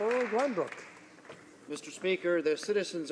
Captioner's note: applause